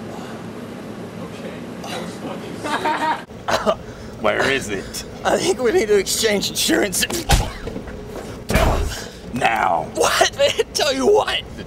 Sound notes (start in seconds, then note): 3.4 laughing; 3.4 choking; 8.5 bang; 8.5 slams